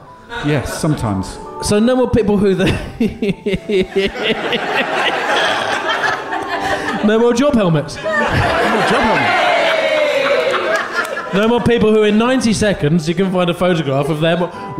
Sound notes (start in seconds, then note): 5.3 laughing